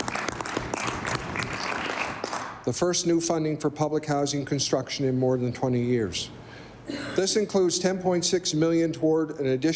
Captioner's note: applause